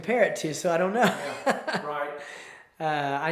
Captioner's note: chuckles